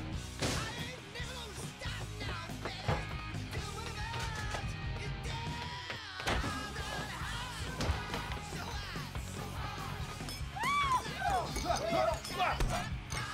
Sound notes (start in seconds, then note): 10.5 screaming